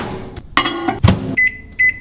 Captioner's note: microwave door thunks; glass clatters; buttons beep